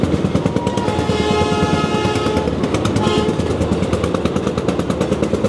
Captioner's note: train horn blows